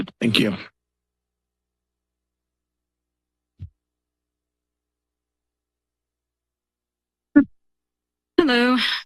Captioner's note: silence